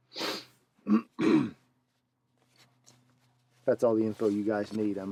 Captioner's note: clears throat